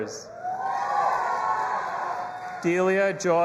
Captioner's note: audience applauding and cheering